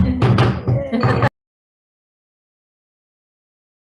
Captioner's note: gavel slams